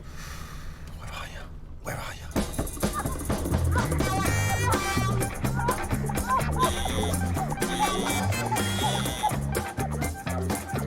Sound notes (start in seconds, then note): 3.8 woman moaning